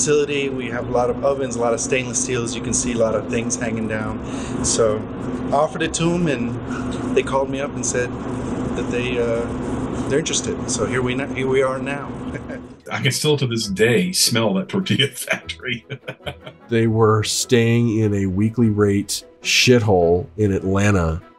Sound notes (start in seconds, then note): 12.2 chuckles; 14.8 laughs